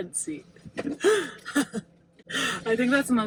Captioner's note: laughs